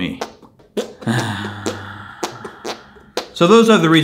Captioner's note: farting noises